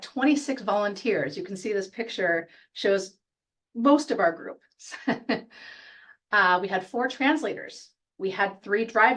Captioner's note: chuckle